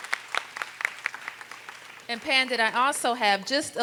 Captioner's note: applause